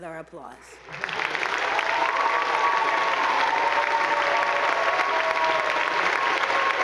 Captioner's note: attendees applauding; audience cheering